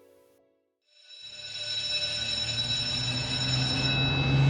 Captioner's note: bell going off; bus roaring in, air release of brakes